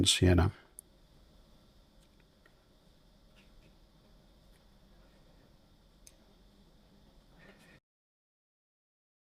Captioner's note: silence